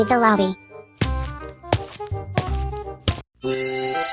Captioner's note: footsteps